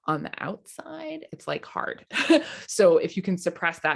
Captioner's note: chuckles